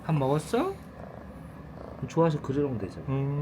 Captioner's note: purrs